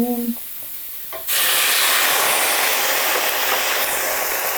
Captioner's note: water sizzling